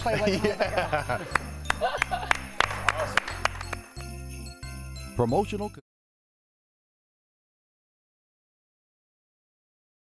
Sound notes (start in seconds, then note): 5.4 applause